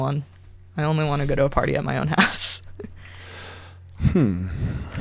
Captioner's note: laughs